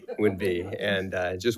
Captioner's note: attendees laughs